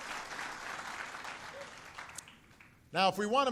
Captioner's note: applause